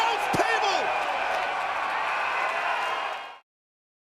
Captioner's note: crowd cheering